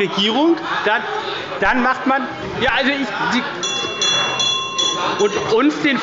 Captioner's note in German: Unruhe – Glockenzeichen des Präsidenten